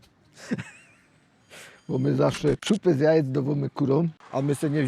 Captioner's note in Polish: śmiech